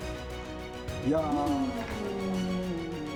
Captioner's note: speaking in German